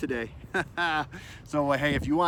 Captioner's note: laughs